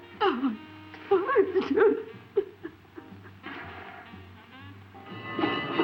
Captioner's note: sobs